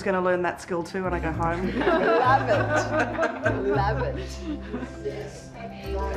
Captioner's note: laughter